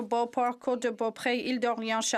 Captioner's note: speaking French